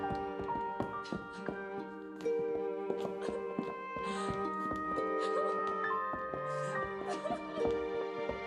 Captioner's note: <i> sobbing</i>